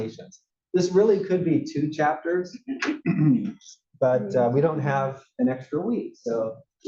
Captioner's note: cough